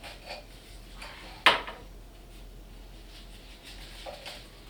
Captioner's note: knock